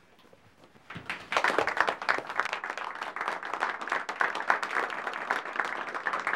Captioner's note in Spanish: audiencia aplaudiendo